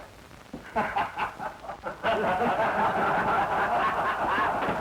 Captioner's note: laughter